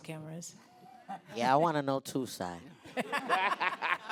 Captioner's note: voiceover